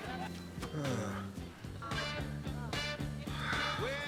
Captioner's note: sighs